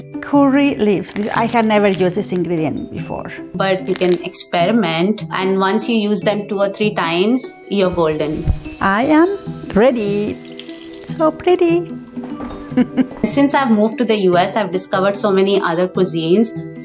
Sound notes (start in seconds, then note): 12.5 chuckles